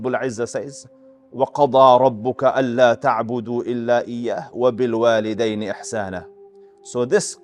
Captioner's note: Arabic